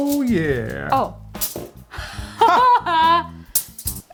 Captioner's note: laughs